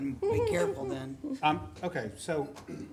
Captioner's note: laughing